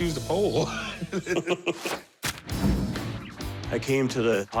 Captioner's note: laughter